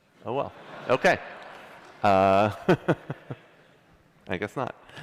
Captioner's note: laughter